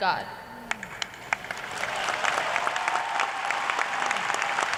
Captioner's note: cheers and applause